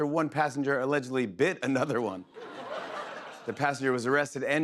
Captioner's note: laughter